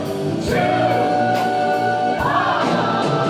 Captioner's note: shouted